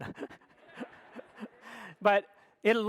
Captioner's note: audience laughs